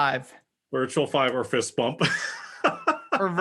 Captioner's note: laugh